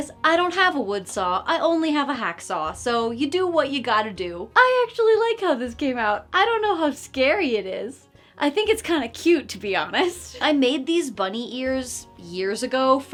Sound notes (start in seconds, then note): none